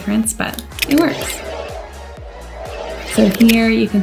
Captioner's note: upbeat music; whirring